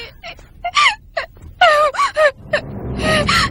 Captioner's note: sobbing